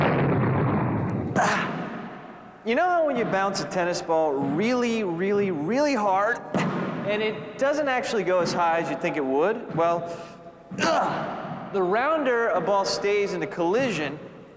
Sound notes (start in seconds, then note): 1.3 grunting; 10.7 grunting